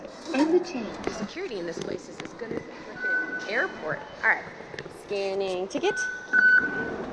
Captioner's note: beep